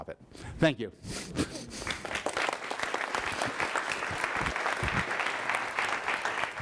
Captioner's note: audience applause